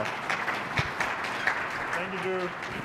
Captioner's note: applause